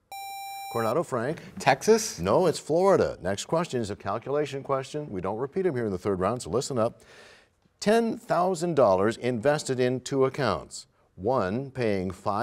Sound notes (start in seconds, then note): none